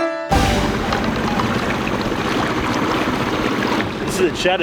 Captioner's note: water splashing